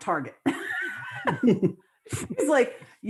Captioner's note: laughter